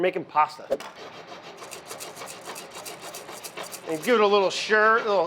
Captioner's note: dutch oven scrapes against burner